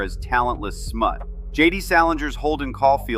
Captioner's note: thoughtful